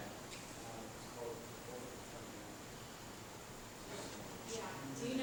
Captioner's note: people chattering